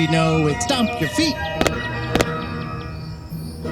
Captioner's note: stomp Stomp